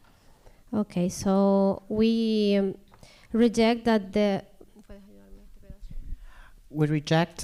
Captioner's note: speaking spanish